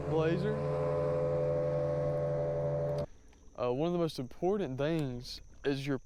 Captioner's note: boat Driving